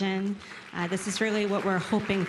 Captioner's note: applause